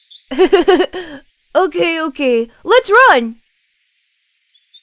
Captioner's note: giggles